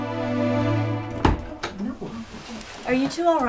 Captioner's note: bangs